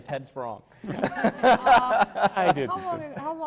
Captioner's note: laughter